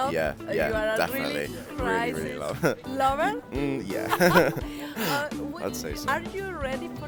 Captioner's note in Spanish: Risas